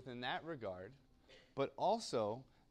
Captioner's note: cough